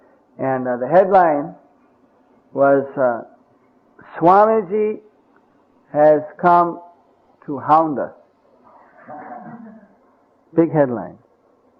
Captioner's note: laughter